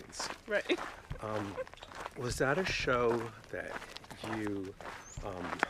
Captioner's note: laughs